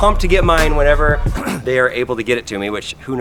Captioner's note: clears throat